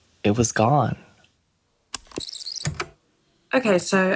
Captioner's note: the tape whirrs, fast forwarding